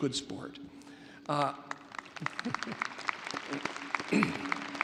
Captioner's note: audience applauding